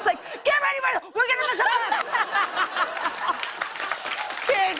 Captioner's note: laughter and applause